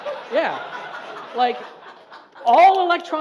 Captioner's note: audience laughs